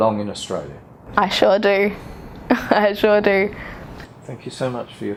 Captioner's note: laughs